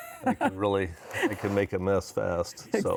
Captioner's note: laughing